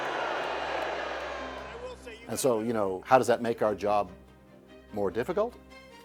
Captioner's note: crowd booing